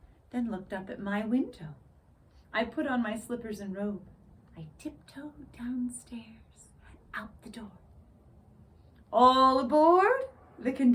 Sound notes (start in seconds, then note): none